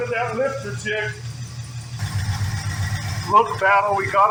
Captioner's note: engine idling